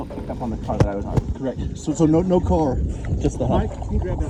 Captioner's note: indistinct conversation